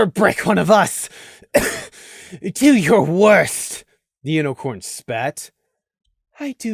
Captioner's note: cough